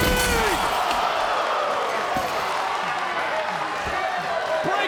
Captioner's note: crowd murmuring